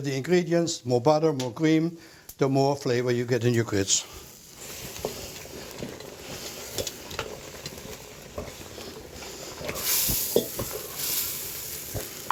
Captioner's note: sizzling